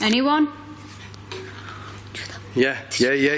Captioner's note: light tapping